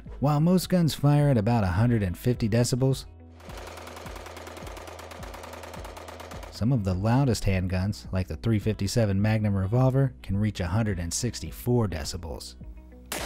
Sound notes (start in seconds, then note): 3.4 gun popping